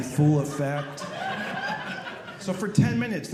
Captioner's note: audience laughing